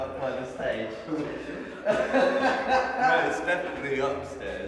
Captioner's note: man laughs